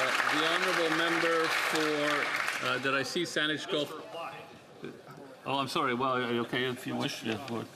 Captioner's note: applause